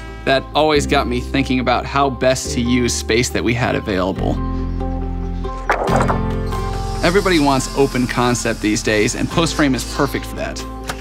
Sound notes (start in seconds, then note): 5.5 boards rattling